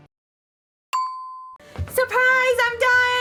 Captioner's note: bell dings